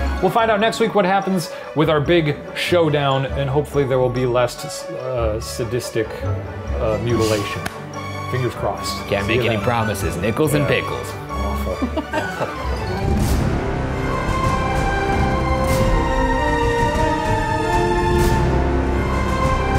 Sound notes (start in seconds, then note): 11.6 laughing; 13.3 intense classical music